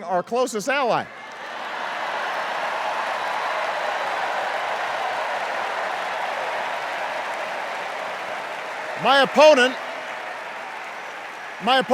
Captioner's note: applause and cheers